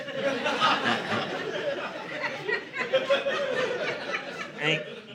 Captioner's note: audience laughing